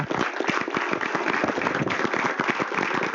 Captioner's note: applause